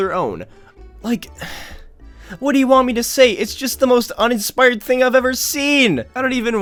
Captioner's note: sigh